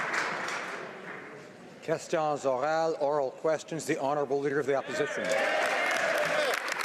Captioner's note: applause